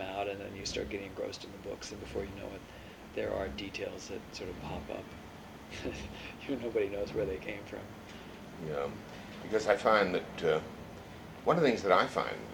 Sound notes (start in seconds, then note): 5.7 laughs